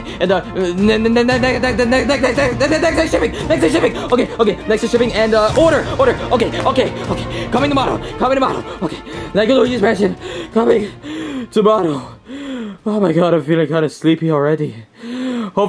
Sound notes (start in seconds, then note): 11.0 panting